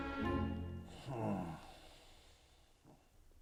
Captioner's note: daniel groaning